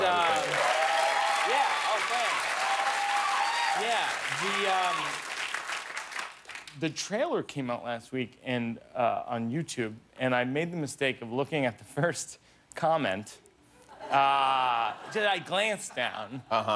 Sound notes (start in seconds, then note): 0.0 cheers and applause; 13.8 laughter